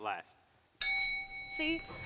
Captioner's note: ding